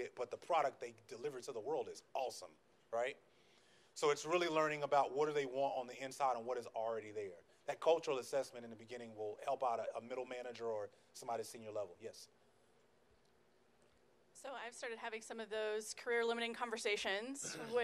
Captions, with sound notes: but the product they deliver to the world is awesome, right? So it's really learning about what do they want on the inside, and what is already there. That cultural assessment in the beginning will help out a middle manager or somebody senior level. Yes? - [Voiceover] So I've started having some of those career limiting conversations